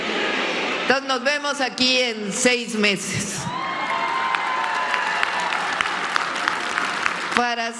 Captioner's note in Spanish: aplausos